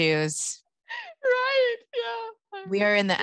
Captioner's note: laughing